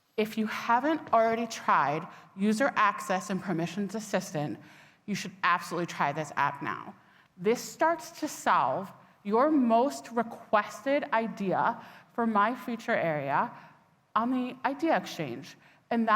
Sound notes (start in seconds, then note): none